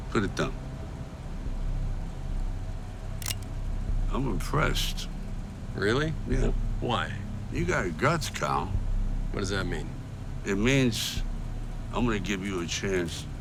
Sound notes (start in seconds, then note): 3.2 gun clicking